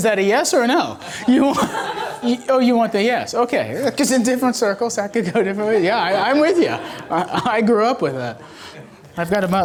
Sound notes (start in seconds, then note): 1.0 laughing